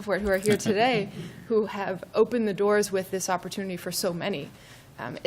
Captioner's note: laughter